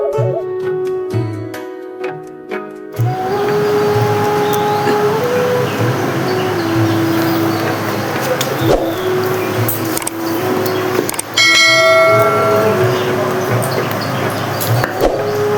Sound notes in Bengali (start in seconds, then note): 11.3 ঘণ্টা